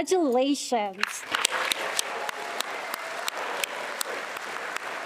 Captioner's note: attendees applauding